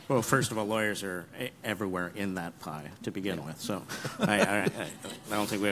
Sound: laughing

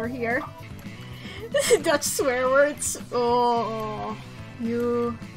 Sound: through laughter

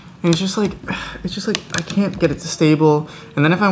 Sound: sighs

